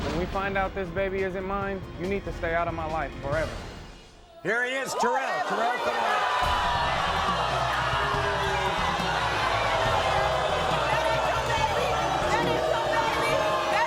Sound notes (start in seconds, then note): 6.4 audience boos